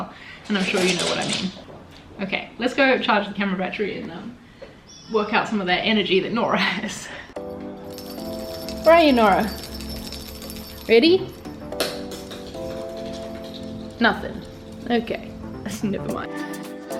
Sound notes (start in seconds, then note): 7.5 cat toy ringing; 16.8 lively music